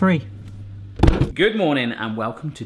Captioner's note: clunking